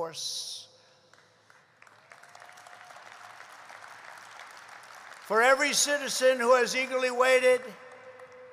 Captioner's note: applause